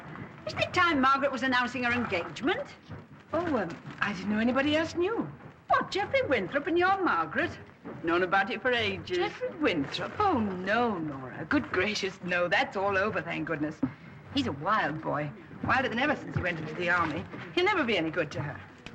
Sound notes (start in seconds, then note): none